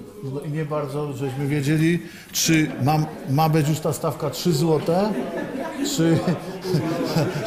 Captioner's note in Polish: śmiech z sali, głosy